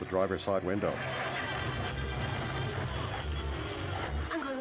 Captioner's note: engine turns over